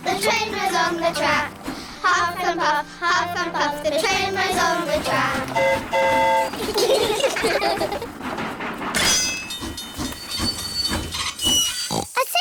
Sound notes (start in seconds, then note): 5.4 train horn toots; 6.5 all giggle; 9.7 tinging; 11.4 oinks